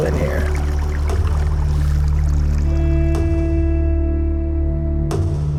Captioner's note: water flowing gently; somber music